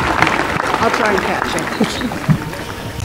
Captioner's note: applause